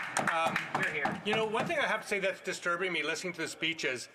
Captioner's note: some Applause